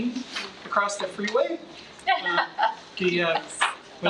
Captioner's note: trustee laughs